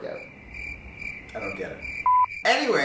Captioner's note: crickets chirping